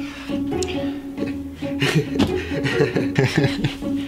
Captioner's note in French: rire nerveux